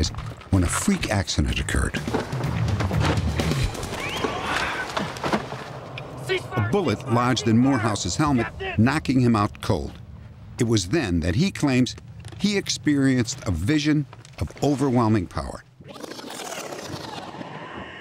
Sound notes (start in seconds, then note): 3.7 bullets ricocheting